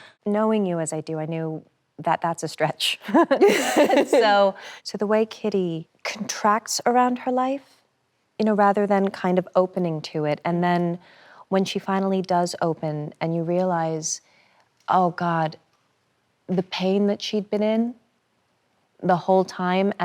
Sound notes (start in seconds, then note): 3.2 both laugh cheerfully